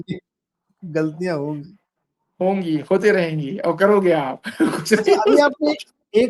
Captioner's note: laughter